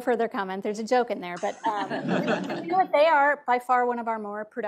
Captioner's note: audience laughs